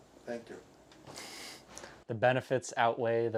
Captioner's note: snickering